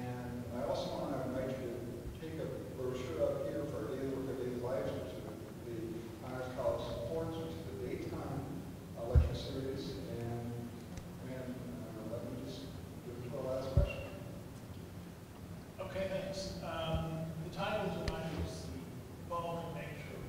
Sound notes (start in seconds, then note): 3.7 speaking off mic